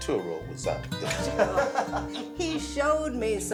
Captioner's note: all laughing